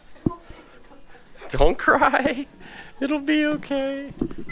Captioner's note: chuckling